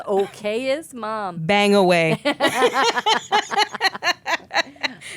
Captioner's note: laughing